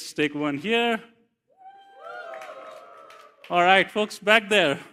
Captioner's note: audience cheering